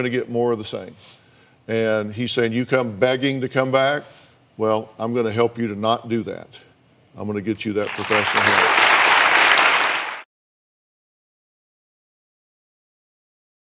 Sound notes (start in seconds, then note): 7.8 applause